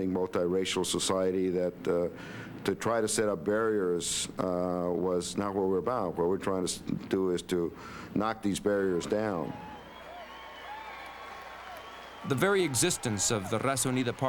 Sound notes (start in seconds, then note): 9.3 cheering